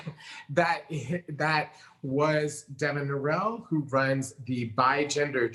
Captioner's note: chuckles